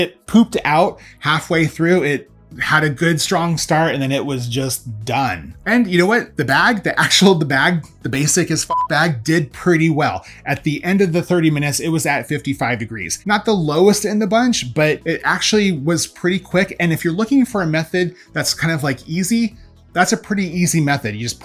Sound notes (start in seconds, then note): 8.6 beep